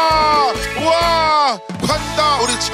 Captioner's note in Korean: 열띤 환호